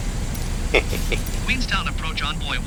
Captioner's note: laughs at self